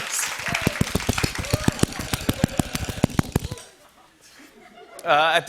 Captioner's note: laughing; loud tapping